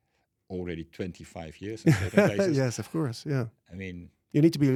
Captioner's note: laughs